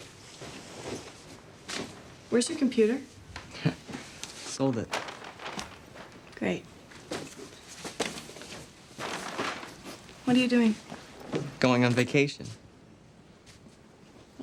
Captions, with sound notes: Where's your computer? - Sold it. (paper rustles) - Great. What are you doing? - Going on vacation.